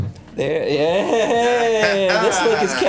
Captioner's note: laughter